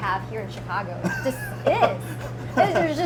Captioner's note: laughs